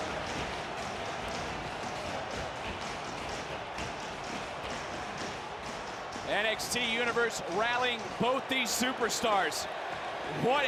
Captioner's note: applause